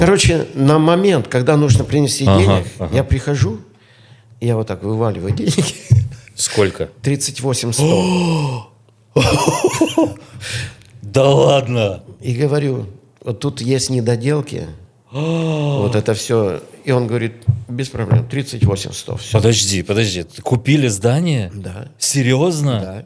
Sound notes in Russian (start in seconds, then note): 7.8 тяжело вздыхает; 9.2 смех